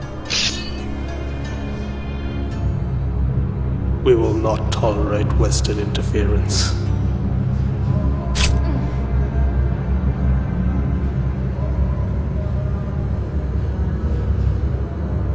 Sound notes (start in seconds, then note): 7.9 metallic whooshing; 8.9 grunting